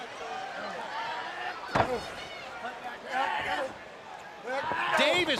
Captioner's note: crowd chatter